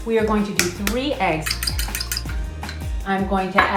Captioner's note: whisking